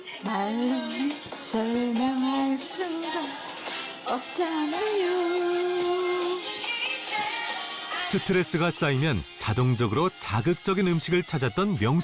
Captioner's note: voiceover